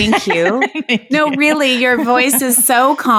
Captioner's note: laughing